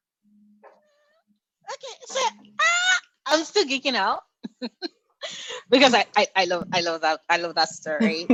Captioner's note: chuckles